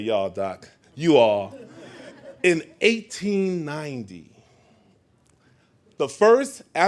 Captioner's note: laughing